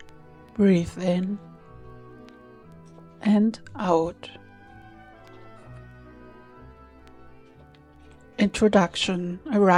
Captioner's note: short pause